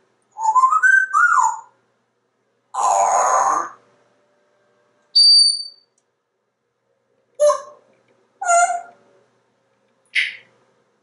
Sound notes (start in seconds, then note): 0.4 whistling; 5.2 high pitch sound